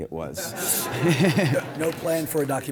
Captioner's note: audience laughs